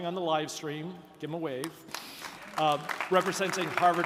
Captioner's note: audience applauding